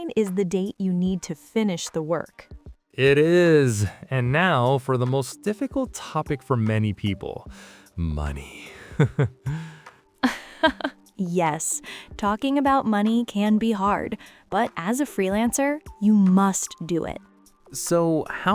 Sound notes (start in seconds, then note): 8.8 chuckles; 8.8 laughs